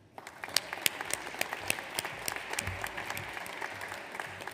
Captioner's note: audience applauds